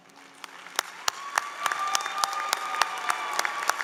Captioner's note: applause